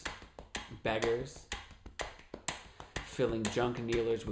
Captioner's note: tapping and ticking sound